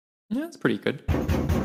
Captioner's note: door banging